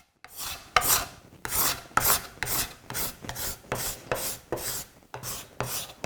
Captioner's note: blade rhythmically scraping